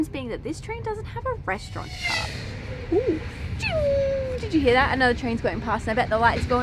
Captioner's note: fast train noises